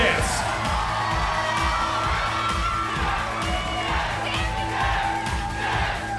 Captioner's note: crowd cheering